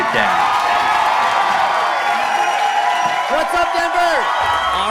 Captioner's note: audience cheering